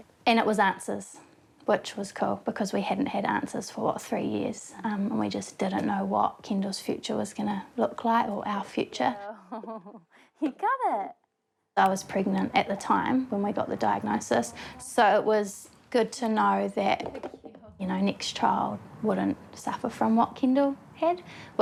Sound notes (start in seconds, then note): 9.2 chuckles